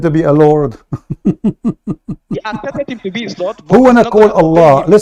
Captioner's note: Ketawa